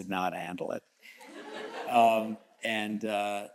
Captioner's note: audience chuckles